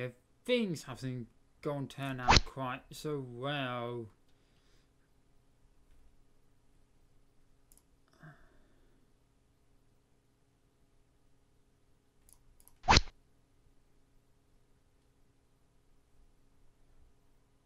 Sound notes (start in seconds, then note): 12.8 rod sound